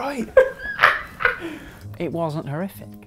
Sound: laughter

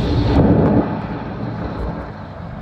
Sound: none

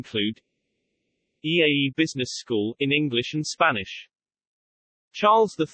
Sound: in English and Spanish

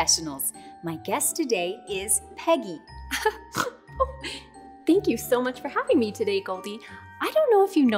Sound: laughs, snorts

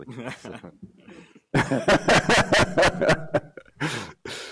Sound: laughter

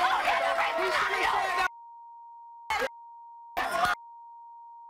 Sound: beeping

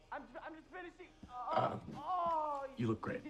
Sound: groaning

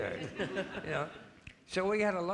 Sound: audience laughing

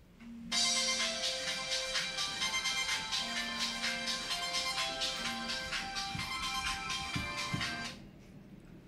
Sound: phone rings

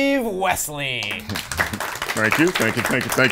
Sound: audience applause

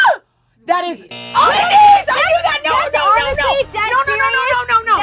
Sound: yelling

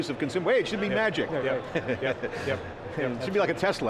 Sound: chuckles

